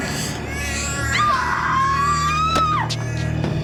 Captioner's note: screams